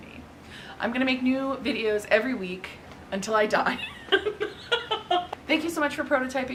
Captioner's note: laughs